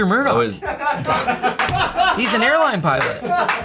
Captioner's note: everyone laughs